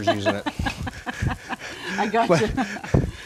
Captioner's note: laughs